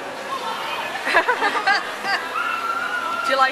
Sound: laughter

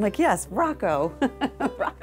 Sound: laughs

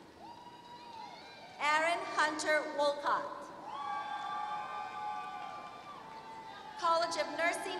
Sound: applause

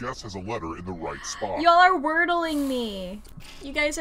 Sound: gasps

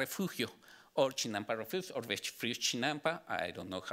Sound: speaking Spanish

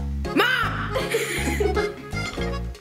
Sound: giggling; upbeat music

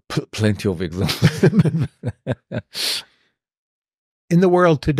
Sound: laughter

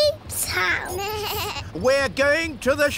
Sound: suzy bleats

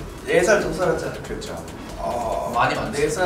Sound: speaking Korean

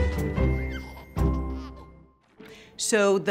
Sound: baby giggling

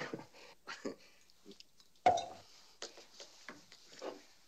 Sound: chuckling

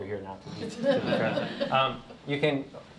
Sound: laughter

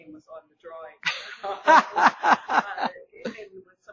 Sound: laughing

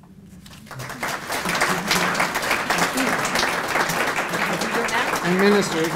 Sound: applause

